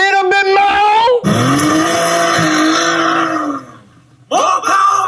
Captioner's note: engine revs